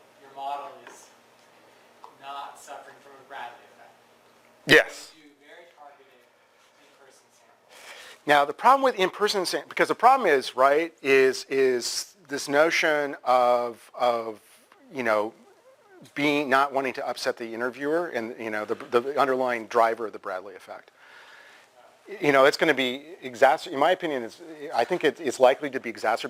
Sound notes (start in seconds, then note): 14.4 pause